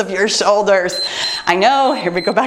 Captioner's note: timer beeps